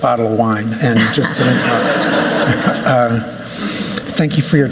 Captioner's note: laughter